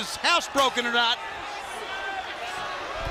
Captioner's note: crowd cheering